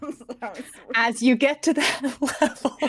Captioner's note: everyone laughs